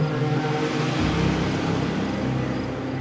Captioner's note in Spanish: Ruido del vehículo